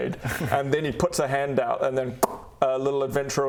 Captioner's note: pop